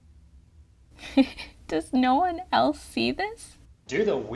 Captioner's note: giggles